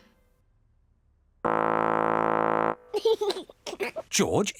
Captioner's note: laughs; horn blares